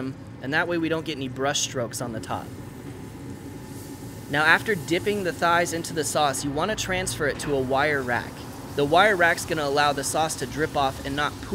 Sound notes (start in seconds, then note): 2.6 meat sizzling